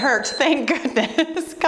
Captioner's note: timer beeps